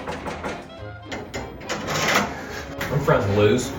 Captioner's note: door knocks